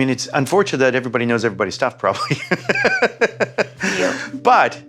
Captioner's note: laughs